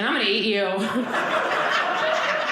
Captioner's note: audience laughing